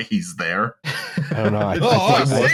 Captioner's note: laughs wheezily